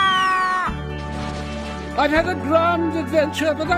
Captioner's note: screaming; splashing